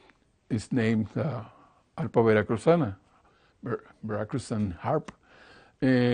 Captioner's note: foreign language